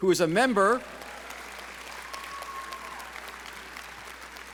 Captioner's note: audience cheering